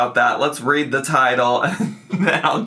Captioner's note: laughing